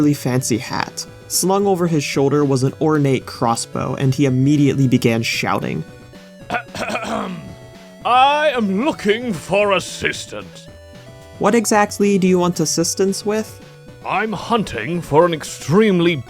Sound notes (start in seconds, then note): 6.5 clears throat